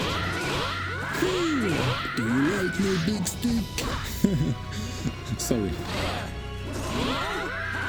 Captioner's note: laughs